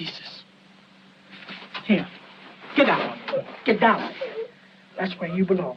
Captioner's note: crying